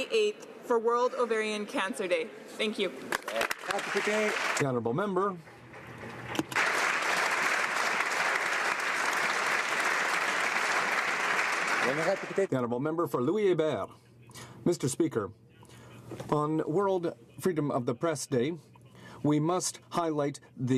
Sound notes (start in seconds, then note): 11.9 applause